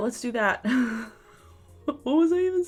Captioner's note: laughs